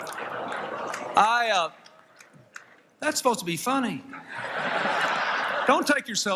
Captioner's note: laughter